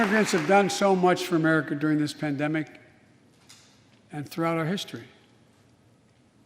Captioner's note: applause